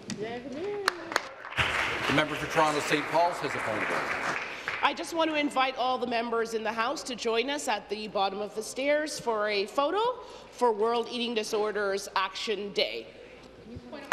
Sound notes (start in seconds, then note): 4.0 applause